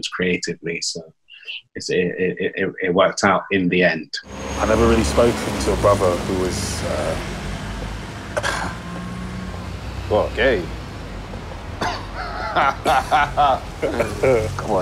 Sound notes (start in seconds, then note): 8.4 throat clears; 12.0 laughs